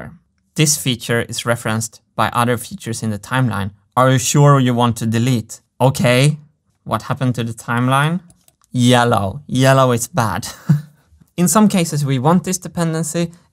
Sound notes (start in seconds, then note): 8.2 mouse clicks; 10.4 chuckles